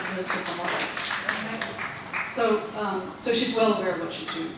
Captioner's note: audience applauding